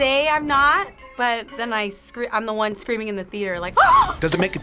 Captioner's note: screams